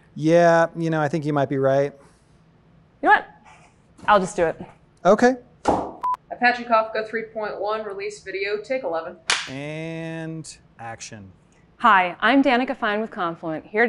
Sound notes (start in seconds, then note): 5.7 thunk; 6.0 beep; 9.3 snap